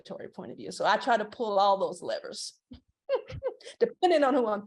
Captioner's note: laughs